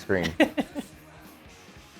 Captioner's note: laugh